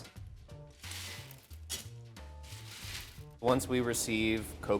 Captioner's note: beans rattling